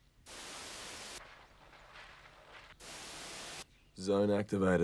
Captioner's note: static crackles